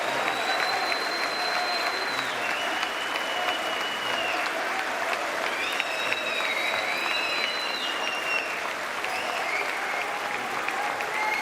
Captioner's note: applause